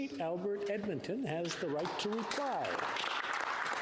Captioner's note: applause